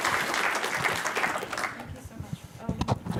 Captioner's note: applause